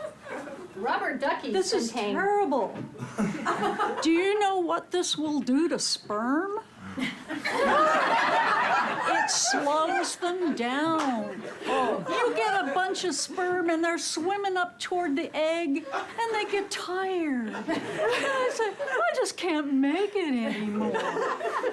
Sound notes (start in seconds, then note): 6.9 laughter